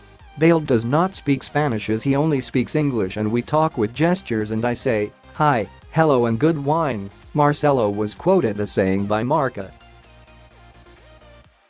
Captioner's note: Spanish